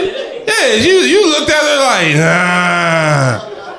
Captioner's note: groans